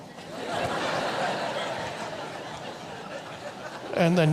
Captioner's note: audience laughs